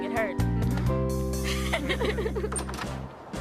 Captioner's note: both laughing